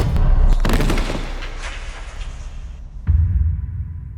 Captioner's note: body thuds